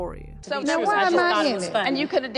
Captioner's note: people talking